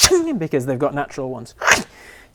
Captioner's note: unsheathes claws